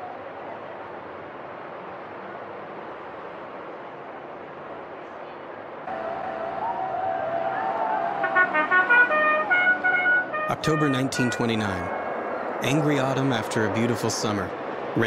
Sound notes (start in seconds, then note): 5.8 cheering; 8.1 bugle playing